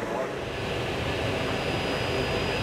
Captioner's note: machine drone